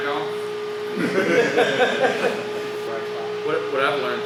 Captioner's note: laughs loudly